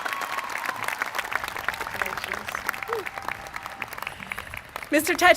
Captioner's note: applause